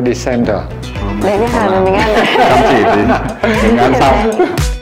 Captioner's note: laugh